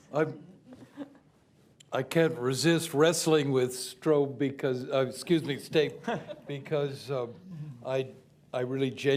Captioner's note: laughs; laughter